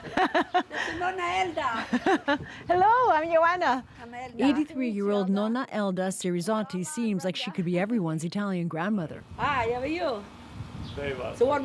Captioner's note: laughter